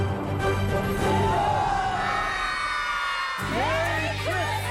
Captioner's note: kids cheer